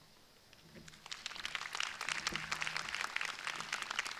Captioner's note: crowd applauding